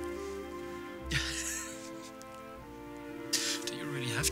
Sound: Mathieu chuckles

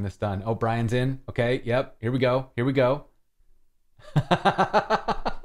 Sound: laughter

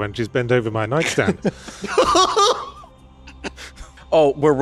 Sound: laughing

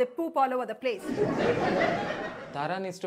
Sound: audience laughs

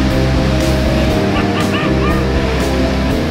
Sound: laughs

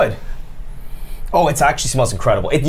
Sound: inhales sharply

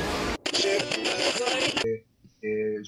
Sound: radio tune

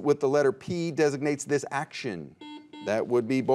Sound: buzzer beeps

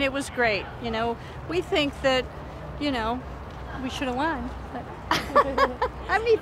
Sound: laughs

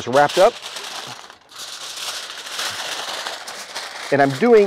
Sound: foil crinkling

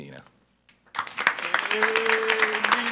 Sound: attendees applauding

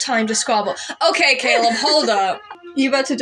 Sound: laugh

